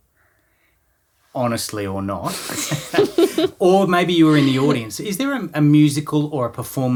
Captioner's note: both laughing